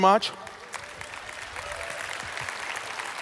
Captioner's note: applause